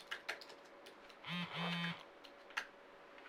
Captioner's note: cell phone vibrates